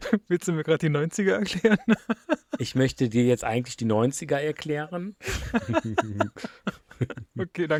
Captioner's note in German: gelächter; gelächter